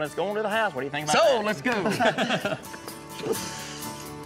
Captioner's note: laughter